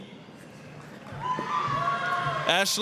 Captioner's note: applause, cheering